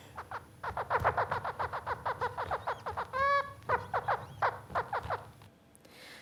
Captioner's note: bird singing